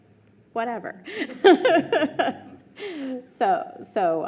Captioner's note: laughing